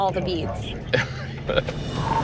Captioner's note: laughs